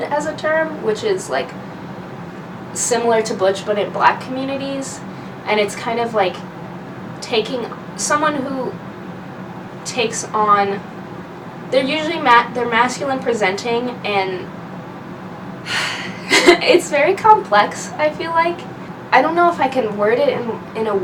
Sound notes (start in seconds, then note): 15.6 sighs; 15.7 laughs